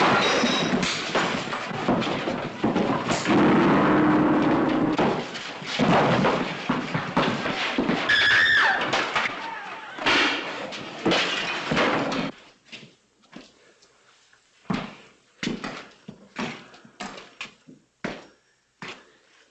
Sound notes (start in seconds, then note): 3.0 piano sound; 7.8 woman screams; 10.0 crash - thud